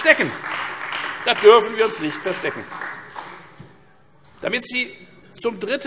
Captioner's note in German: Beifall Freie Demokraten